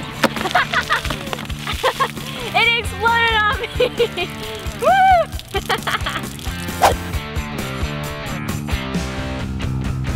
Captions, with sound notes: (laughs) It exploded on me. (laughs) (rock music)